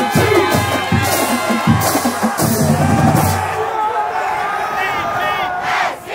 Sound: crowd cheering

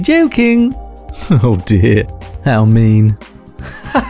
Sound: presenter and Customer laughing, nervously laughing; laughing

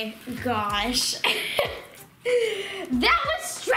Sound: laughing

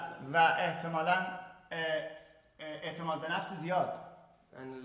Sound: speaking in farsi

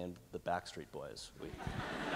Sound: laughter

